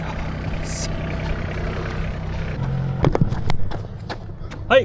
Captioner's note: man speaking in foreign language